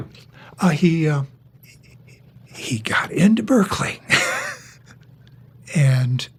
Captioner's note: laughs